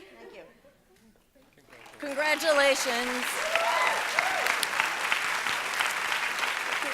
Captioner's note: applause